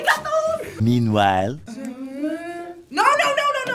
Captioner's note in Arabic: التعليق الصوتي